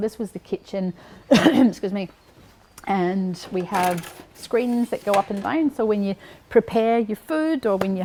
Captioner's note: coughs